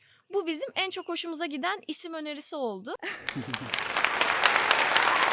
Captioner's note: applause